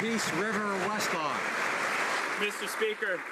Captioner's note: applause